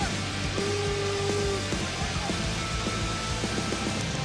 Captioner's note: fan boos